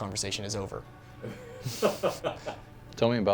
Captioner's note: Rick laughs